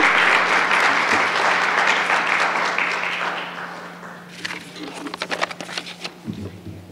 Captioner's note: applause